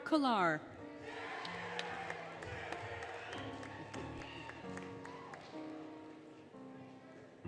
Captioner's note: applause, Cheering, Music